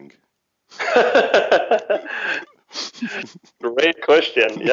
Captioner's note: laughs